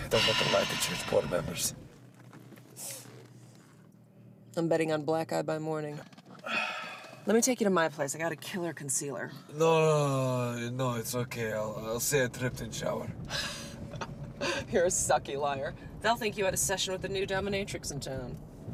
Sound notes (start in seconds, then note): 3.5 Ava sighs; 6.4 Radovan exhales; 14.4 Ava laughs